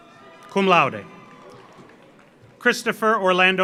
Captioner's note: audience applauds; audience cheers